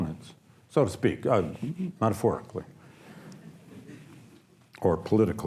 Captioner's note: audience laughs